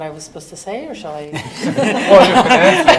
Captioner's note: audience laughing